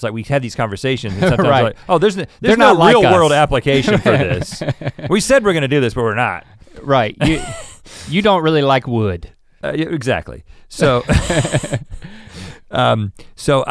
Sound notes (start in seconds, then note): 3.6 laughs; 10.8 laugh